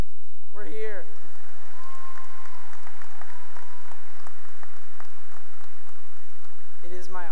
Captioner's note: cheering and applause